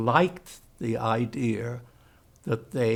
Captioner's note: german